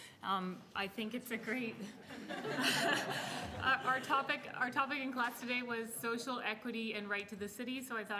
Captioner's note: laughter